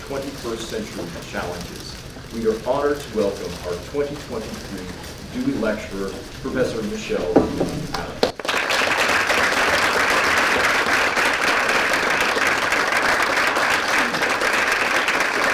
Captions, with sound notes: 21st century challenges. We are honored to welcome our 2023 Dewey Lecturer, Professor Michele Moody-Adams. [APPLAUSE]